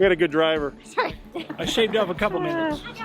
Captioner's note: laughing